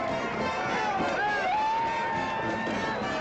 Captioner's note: crowd cheering